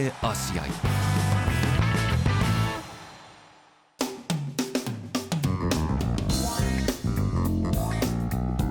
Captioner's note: applause